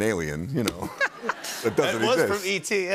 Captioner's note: laughter